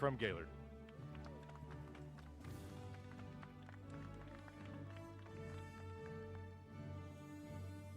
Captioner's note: applause